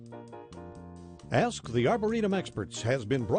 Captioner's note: voiceover